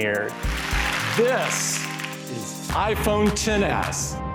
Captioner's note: crowd applauses